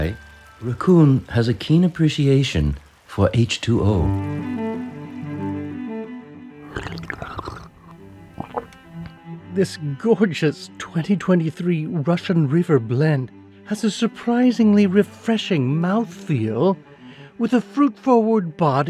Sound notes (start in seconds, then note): 4.5 gentle music; 6.7 Raccoon slurping